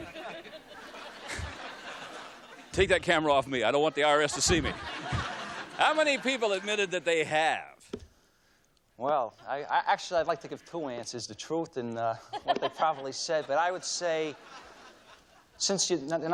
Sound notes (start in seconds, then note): 0.0 laughter